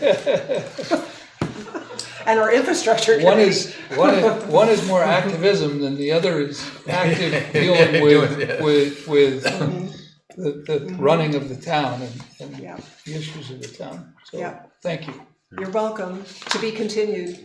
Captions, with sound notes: (laughing) And our infrastructure committee. One is more activism than the other is active dealing with the running of the town and the issues of the town. So thank you. You're welcome to be continued.